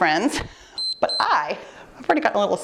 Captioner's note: timer beeps